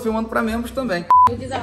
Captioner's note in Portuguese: som de bipe